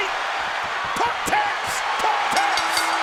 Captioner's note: hand tapping